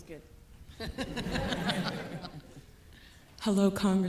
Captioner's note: audience laughing